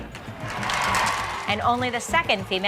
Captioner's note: cheers and applause